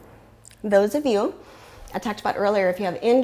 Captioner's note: deep breathing sounds